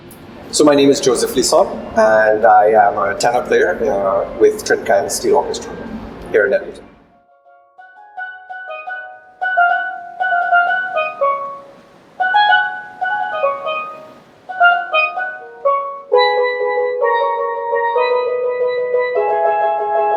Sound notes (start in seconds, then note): 7.1 steelpan percussion; 9.4 waves crashing